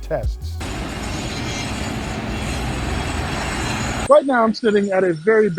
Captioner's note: traffic whizzing